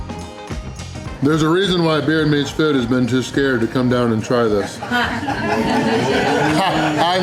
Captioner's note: laughter